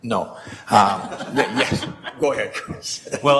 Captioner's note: members laugh